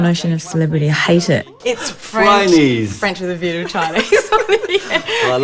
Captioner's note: laughs